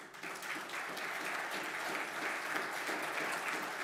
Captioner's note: applause